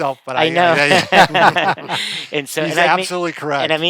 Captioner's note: laughing